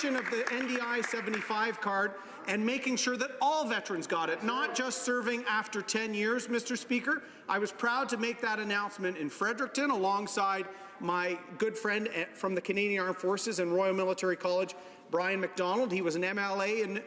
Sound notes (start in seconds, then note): 2.5 some Applause